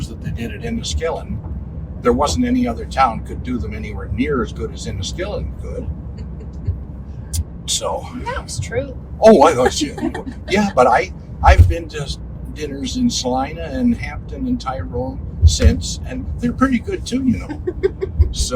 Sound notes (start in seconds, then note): 7.1 laughing; 9.4 laughing; 17.2 laughing